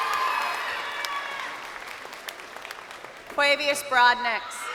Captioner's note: crowd cheering